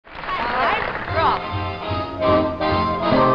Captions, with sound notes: Alright, indiscernible (audience applauding) (upbeat jazz music)